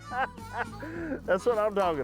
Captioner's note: laughs